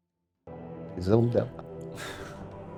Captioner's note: laughs